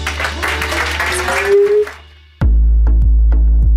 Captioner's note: audience clapping; upbeat music